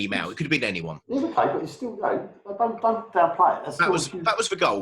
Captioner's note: murmurs